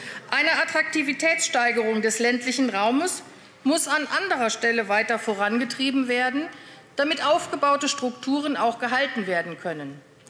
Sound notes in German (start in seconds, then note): none